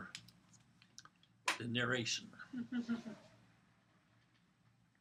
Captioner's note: laugh